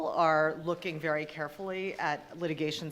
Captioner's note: none